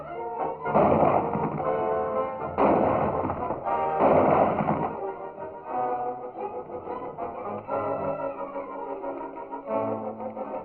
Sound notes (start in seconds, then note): 0.2 tense music; 0.6 gunshots